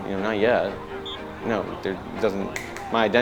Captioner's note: football crowd sounds